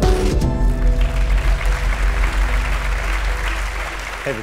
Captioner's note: applause